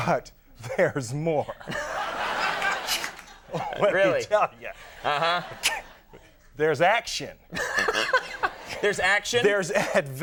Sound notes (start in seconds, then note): 1.6 crowd laughing; 5.4 scoffs; 7.6 laughing